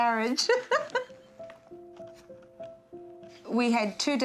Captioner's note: laughter